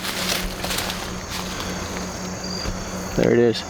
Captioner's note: birds tweeting